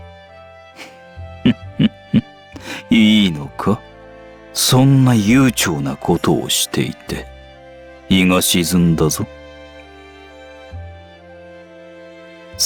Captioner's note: chuckle